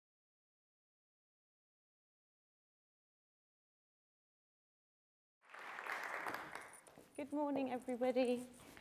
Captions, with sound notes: [audience applauds faintly] - Good morning everybody.